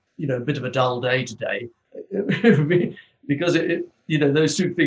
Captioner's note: laughs